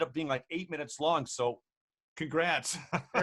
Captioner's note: laughs